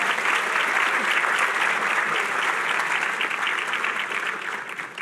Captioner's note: applause